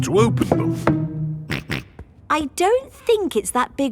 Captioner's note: snorts